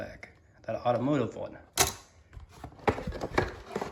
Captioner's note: board clicks; cardboard sounds